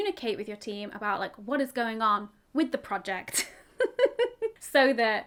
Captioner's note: chuckles